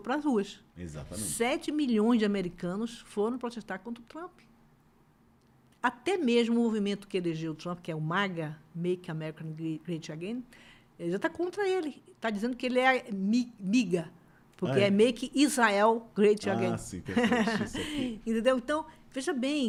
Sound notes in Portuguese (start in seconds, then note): 17.0 risadas